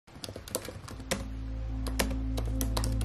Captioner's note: typing